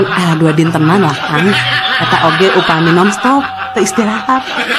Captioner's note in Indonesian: tertawa